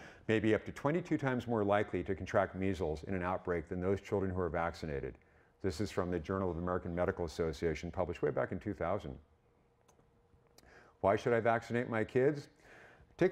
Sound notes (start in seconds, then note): none